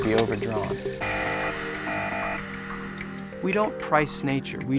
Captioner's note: loud buzz